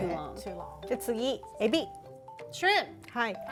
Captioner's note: speaking Japanese